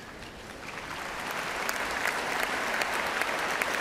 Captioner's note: cheers and applause